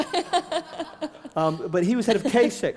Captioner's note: laughter